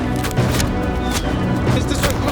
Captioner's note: arrows whistling